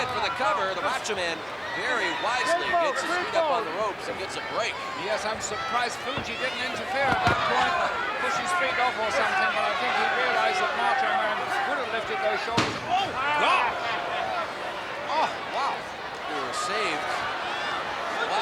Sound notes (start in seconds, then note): 6.0 footsteps plodding; 12.5 head thudding